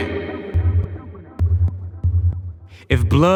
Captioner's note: echoes